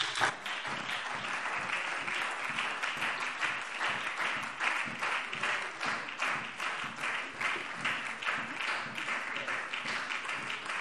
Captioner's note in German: Beifall SPD und DIE LINKE